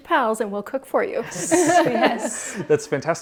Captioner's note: laughs